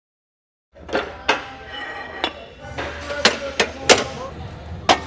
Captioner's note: weights clanking